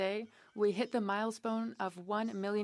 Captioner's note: speaking French